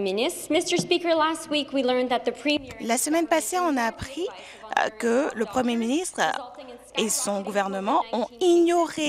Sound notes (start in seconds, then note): 3.3 speaking FRENCH